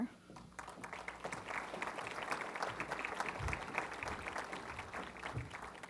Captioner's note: applause